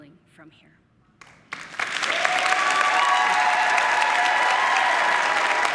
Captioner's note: audience applauding